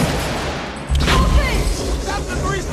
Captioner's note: gunshot booms; Samantha shouts